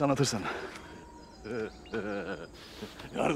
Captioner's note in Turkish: Gülme sesi